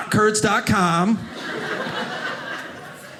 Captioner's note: audience laughing